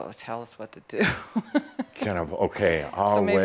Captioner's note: she giggles